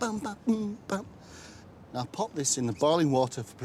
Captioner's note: hums